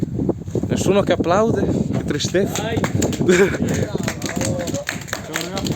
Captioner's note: applause starting in the background